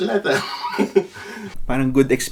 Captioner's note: laughs